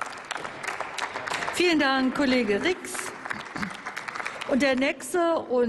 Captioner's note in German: Applaus